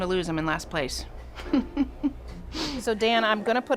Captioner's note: chuckles